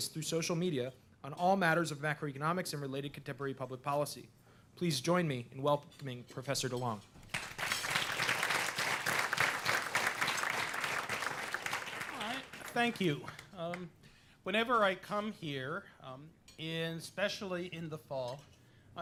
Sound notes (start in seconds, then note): 7.2 applause